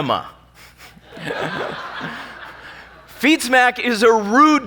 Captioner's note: laughing